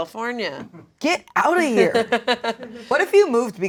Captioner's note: laughing